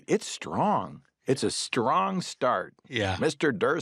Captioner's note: laughs